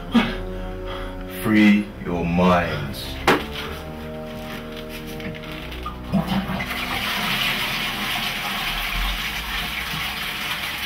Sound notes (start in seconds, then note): 5.6 toilet flushes